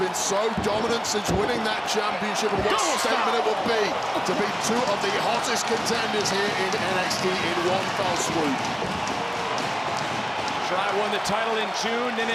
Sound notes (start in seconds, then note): 9.0 crowd applauds; 9.0 crowd cheering